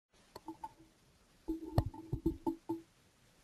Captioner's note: mouse clicking